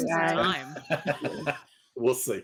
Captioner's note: chuckling